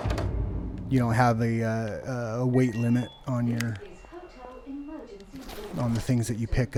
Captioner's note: hotel Emergency Auto PA in the background